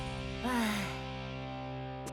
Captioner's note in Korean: 한숨 소리